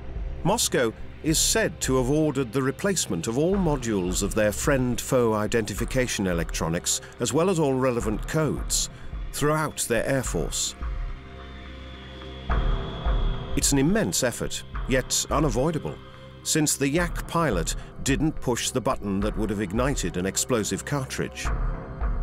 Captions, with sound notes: Moscow is said to have ordered the replacement of all modules of their friend foe identification electronics, as well as all relevant codes, throughout their air force. [jet engines whine] It's an immense effort, yet unavoidable, since the Yak pilot didn't push the button that would have ignited an explosive cartridge.